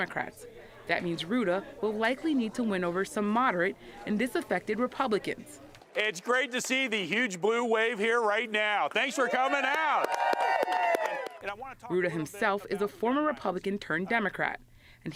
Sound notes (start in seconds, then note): 9.0 cheering and applause